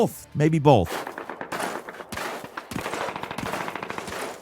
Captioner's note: gunshots blasting